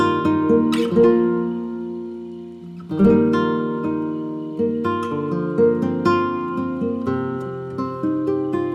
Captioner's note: haha